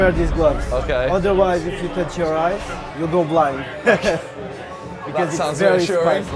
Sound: laughs

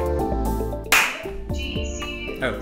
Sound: clap

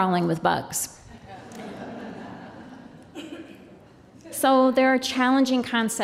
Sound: laughter

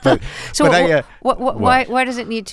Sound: laughter

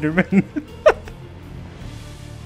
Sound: laughs

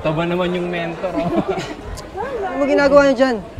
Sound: laughing

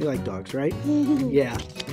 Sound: giggles

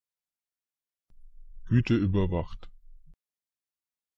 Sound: fast Pronunciation

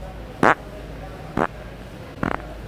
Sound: farting noise

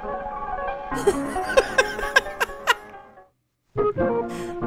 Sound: laughs

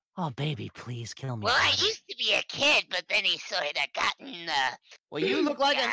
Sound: clearing throat

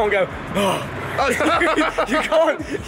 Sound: both laughing

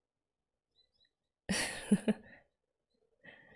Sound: laughs

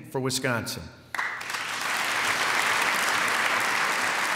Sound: applause

